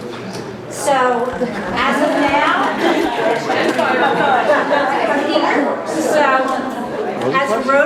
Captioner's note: laughter